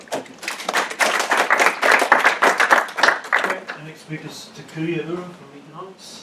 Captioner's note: applause